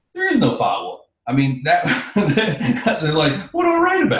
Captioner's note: laughs